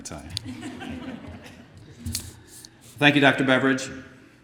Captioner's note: laughter